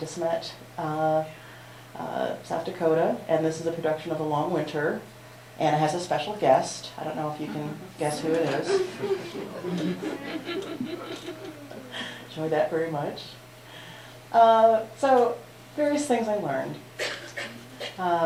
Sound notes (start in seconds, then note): 8.3 laughter